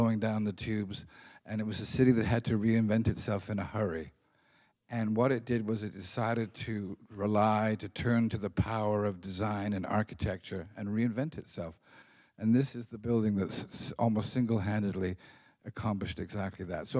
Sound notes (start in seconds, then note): none